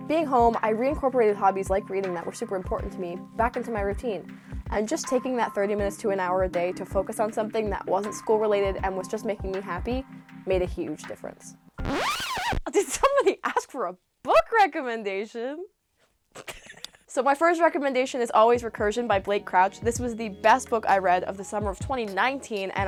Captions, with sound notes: Being home, I reincorporated hobbies like reading that were super important to me back into my routine. And just taking that 30 minutes to an hour a day to focus on something that wasn't school-related and was just making me happy made a huge difference. (record scratching) Did somebody ask for a book recommendation? (laughing) So my first recommendation is always "Recursion" by Black Crouch. This was the best book I read of the summer of 2019,